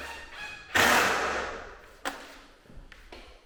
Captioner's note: gun nailing